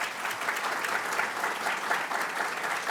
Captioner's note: audience applauding